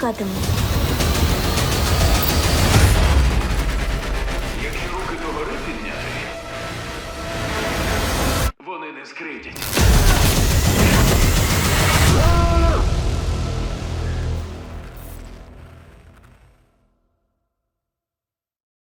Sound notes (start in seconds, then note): 0.1 music intensifies; 2.7 music subsides; 10.5 yells; 10.6 music intensifies; 13.8 static crackles; 14.3 music fades